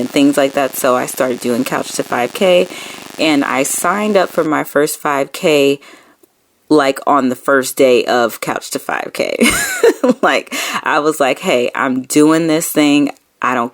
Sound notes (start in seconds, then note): 9.0 laughing